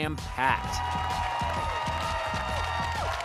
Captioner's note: cheering